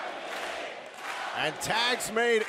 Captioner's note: fans chanting